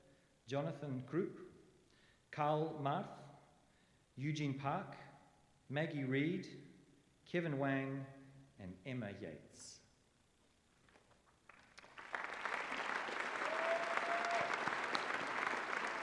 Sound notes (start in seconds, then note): 11.4 applause